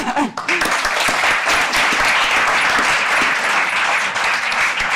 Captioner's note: audience applauding